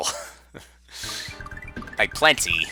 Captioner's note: breathing